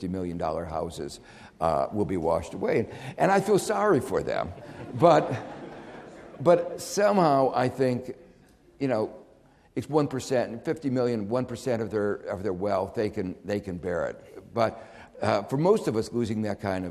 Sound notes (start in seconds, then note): 4.3 audience laughing